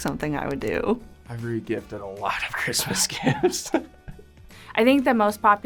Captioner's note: laughs